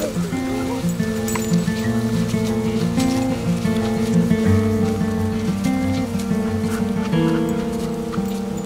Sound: sound of footsteps

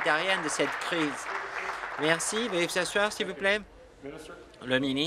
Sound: applause

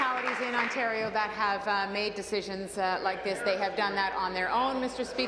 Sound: applause

